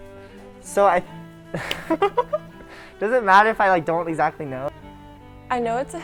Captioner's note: laughs